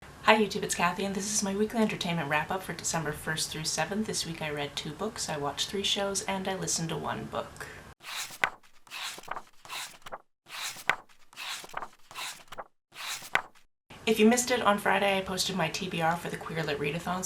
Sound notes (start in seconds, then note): 8.0 pages turning